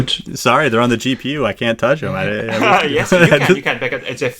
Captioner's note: laughs